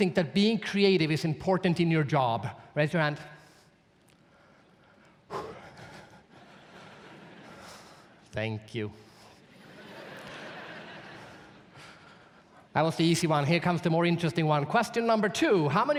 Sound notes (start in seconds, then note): 5.2 sighs; 5.8 audience laughs; 9.4 audience laughs